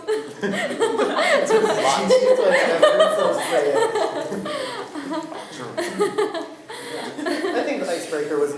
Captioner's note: laughing